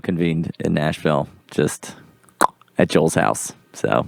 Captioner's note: tongue click